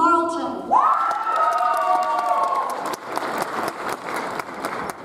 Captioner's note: audience applauds